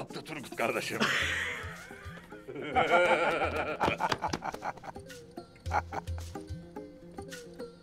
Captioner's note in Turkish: Gülme sesleri